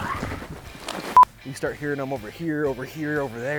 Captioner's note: beep